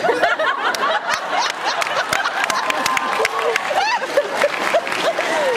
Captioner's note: laughs, applauds